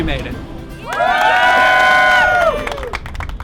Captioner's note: cheer